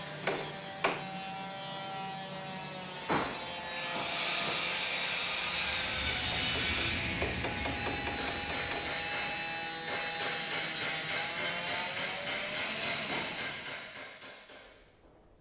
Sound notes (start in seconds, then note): 0.2 circular saw continues to buzz; 7.9 circular saw buzzes, metallic clanking and hammering